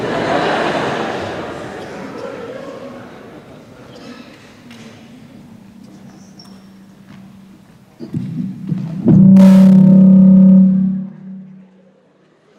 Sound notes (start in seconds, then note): 0.0 audience laughing; 8.0 audio feedback